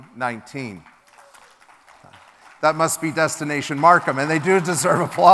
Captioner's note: applause from crowd